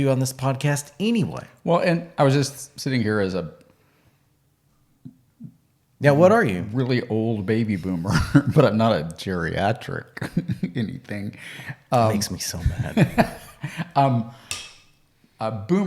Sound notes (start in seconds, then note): 8.0 chuckles; 12.5 laughing